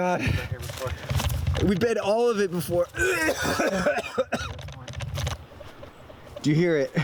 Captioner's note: heaving